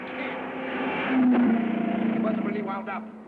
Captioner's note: car revving